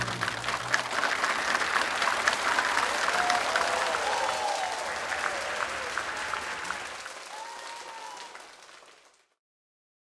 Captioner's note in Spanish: Aplausos